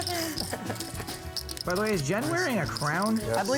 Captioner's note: laughs